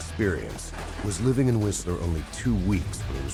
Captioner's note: voiceover